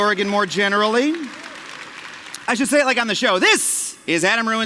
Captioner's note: cheers